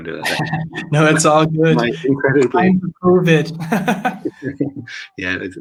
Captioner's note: laughs